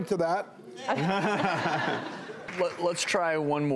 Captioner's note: laughing